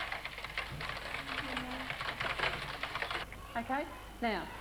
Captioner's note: sound of typing